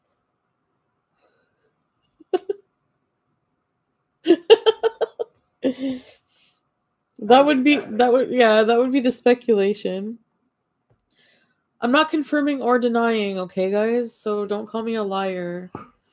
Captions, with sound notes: (laughs) That would be, that would, yeah, that would be the speculation. I'm not confirming or denying. Okay guys, so don't call me a liar.